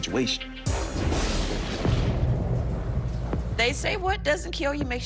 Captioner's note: rain drops; thunder claps